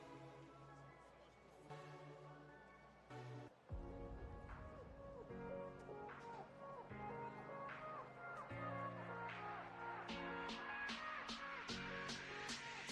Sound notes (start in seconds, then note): none